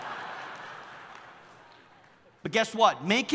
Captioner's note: audience laughing